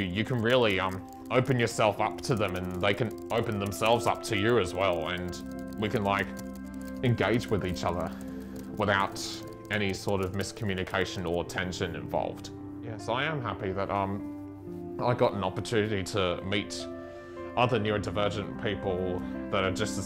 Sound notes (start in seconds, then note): 0.2 keyboard noises